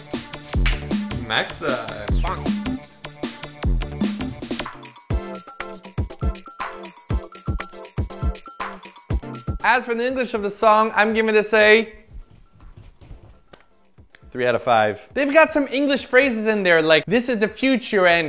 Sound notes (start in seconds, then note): 3.3 bonk; 4.6 more spoon playing music